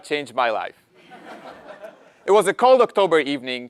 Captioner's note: laugh